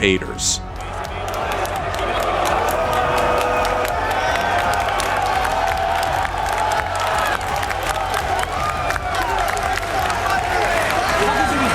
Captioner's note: crowd boos